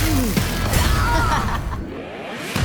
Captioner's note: laughing; groans